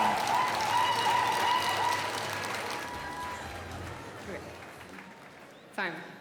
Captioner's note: cheering; applause